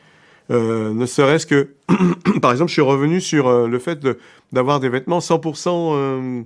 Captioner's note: coughs